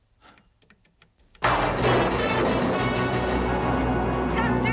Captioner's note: thunder rolling; dramatic music